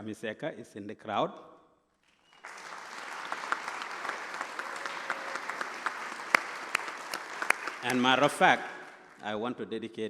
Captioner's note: applause